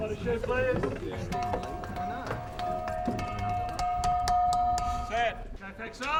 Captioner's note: tapping